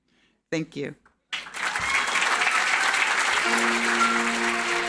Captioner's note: audience applauding; gentle music